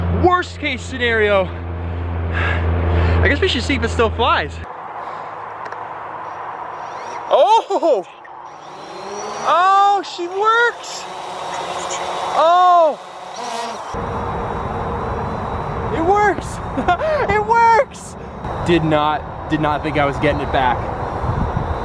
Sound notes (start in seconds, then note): 10.9 drone humming; 16.7 laughs